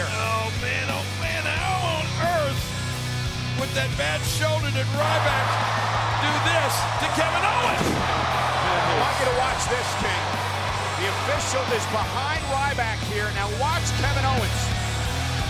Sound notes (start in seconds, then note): 7.5 body thudding; 7.7 audience cheering